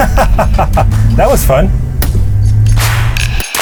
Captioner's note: laughing